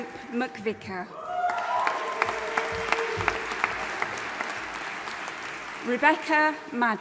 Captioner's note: audience applauding and cheering